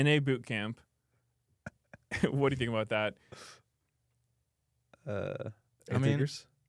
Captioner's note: laughs